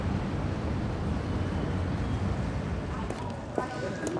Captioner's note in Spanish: Bullicio de la calle